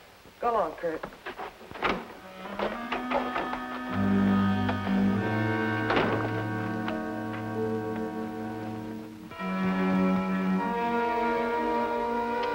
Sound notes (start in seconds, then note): 1.7 door rattles; 2.2 mysterious music